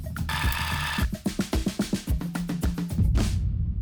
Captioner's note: upbeat music continues; reel whirring